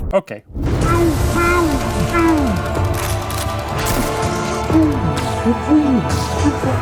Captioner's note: gunshots shooting in slow motion